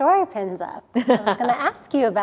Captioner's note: laughs